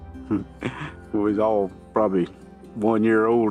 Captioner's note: chuckles